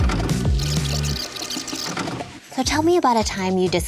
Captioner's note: record tape whirring